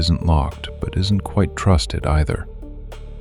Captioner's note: low voice